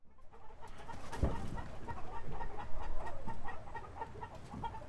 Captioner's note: chickens clucking